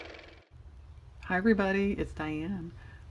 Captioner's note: car motor